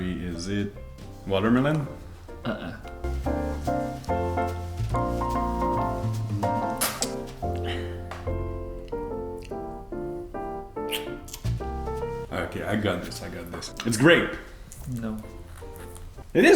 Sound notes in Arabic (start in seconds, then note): 3.7 موسيقى بيانو; 7.1 أصوات تقبيل